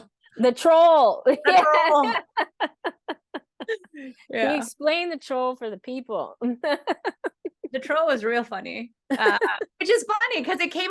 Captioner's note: laughing